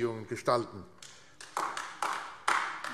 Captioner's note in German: Beifall AfD